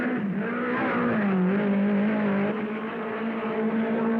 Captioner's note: cars revving